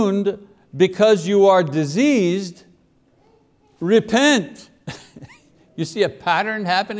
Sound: laughs

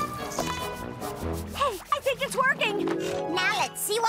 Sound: scrubbing; squirt

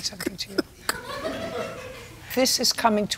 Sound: laughing

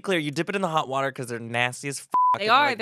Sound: beep

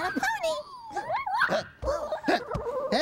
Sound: hiccups twice

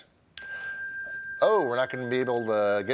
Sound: bell ringing

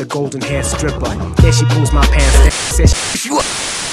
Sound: Static

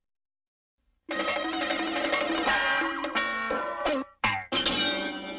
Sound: cartoon sounds resuming

